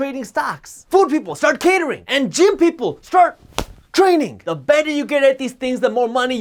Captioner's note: clap